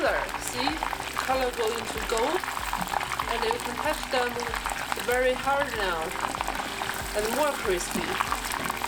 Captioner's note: frying oil